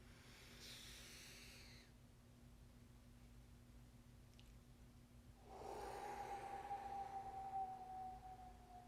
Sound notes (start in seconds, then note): 0.2 inhaling; 5.4 exhaling